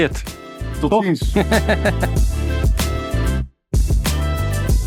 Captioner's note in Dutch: gelach